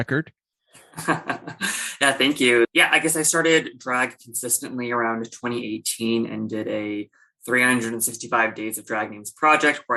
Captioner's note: laughter